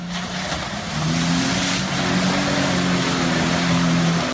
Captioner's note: engine revving